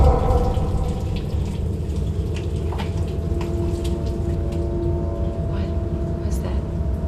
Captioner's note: water trickling; tense, dramatic music